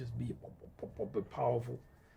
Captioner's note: imitating tuba sounds